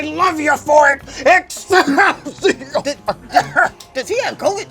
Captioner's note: coughing